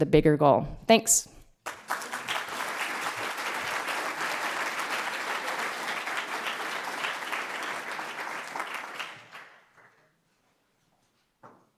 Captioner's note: applause